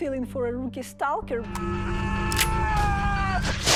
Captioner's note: man screaming